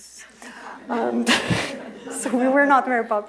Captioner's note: laughter